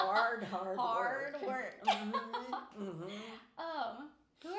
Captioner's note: laughing